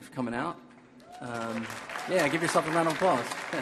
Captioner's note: audience applauding